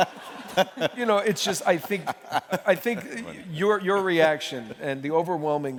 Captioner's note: laughter